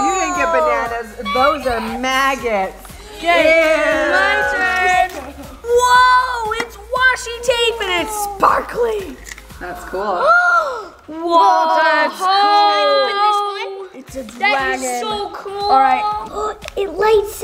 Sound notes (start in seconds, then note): 10.6 gasp